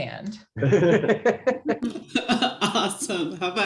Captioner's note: everyone laughs; laughs